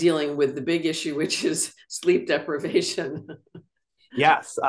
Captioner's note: laughs